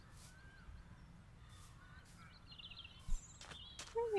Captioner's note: birds tweeting away in the background